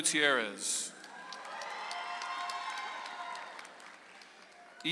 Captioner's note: audience applauds